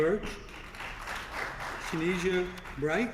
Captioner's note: applause